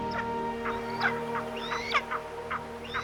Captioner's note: bird of prey calls